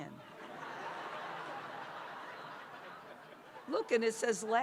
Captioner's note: laughter